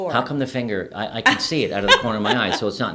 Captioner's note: laughing